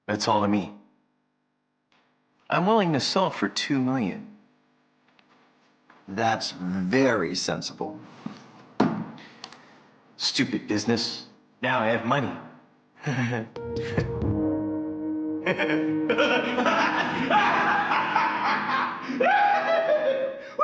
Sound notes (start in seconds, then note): 12.5 laughing; 13.6 dramatic music